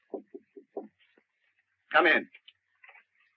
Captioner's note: knocking on door